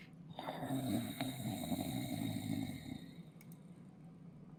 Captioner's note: animal growling